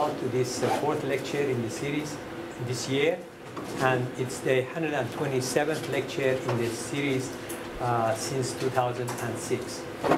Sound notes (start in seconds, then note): none